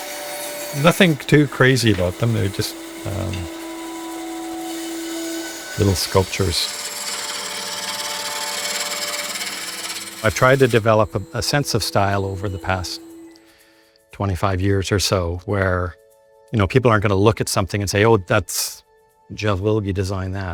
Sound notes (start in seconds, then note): 6.4 lathe whirring